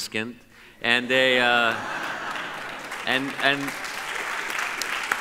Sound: audience laughs and claps

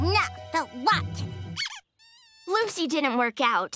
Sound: squeaking

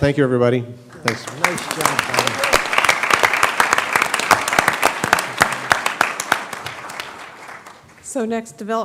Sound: applause

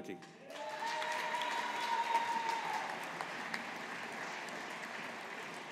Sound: audience applauding

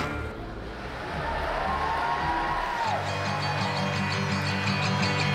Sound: crowd cheering

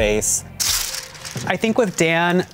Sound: paper ripping

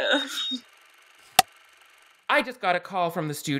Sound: clapperboard cuts

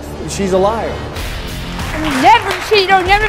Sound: audience applauding

